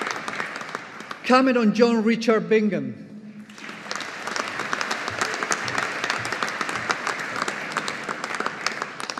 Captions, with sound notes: Cameron John Richard Bingham. (AUDIENCE APPLAUDING)